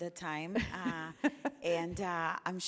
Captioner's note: laughs